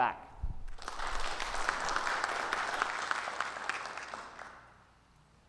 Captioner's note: attendees applauding